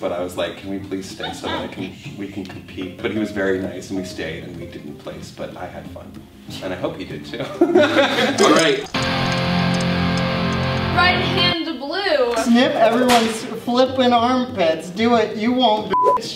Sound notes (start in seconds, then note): 7.4 laughs; 8.2 guitar music sound